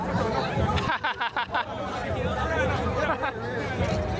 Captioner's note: laughing